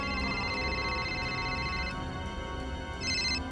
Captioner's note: Mafia phone rings